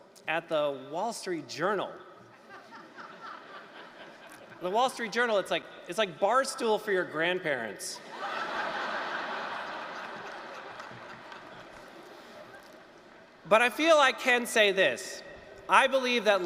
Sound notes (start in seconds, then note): 8.0 laughter